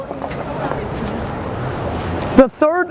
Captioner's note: traffic noise